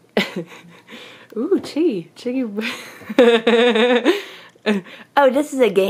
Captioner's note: laughs; laughs